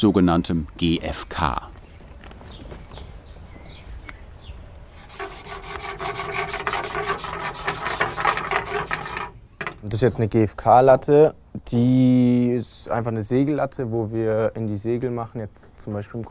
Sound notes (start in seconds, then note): 2.9 birds chirping